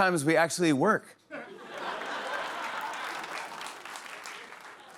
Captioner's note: laughter